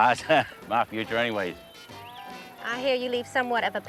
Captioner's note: chuckles